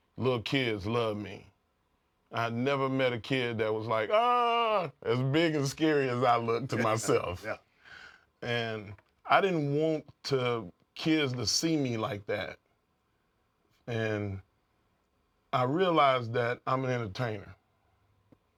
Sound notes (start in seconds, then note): 5.6 laugh